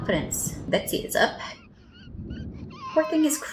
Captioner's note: crying begins